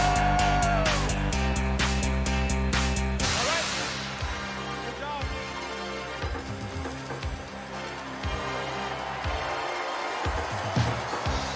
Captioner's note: cheers and applause